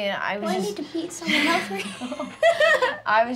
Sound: laughs

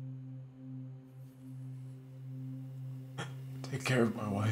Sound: crying

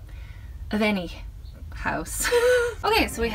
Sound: laughs

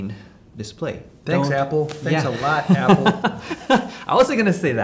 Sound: laughing

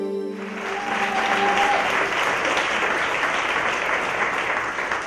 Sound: soft music; applause, cheering

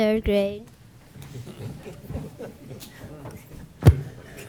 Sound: chuckles

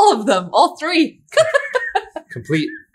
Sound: laughs

